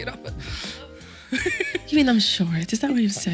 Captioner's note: laughs